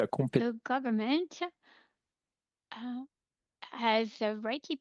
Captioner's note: speaking French